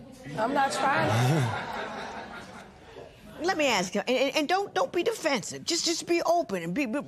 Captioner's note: laughter